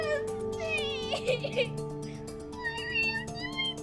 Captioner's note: sobs